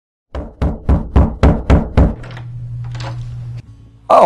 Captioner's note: knocking